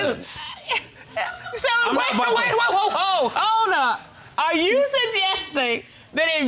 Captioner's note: stuttering